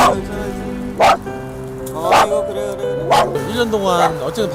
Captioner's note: barking